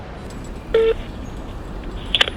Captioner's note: cell phone beeps